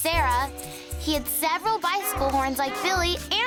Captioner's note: honking